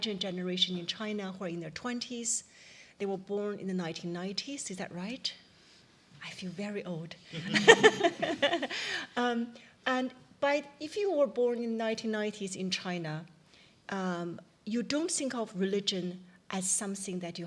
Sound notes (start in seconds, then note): 7.4 laughing